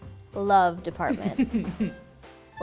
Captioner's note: laughter